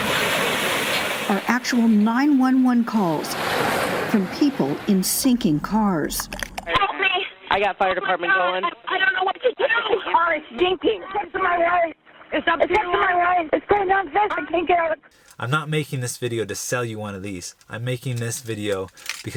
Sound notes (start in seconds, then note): 0.0 water splashing; 12.4 muffled Female Victim